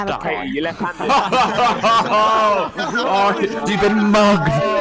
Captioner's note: laughs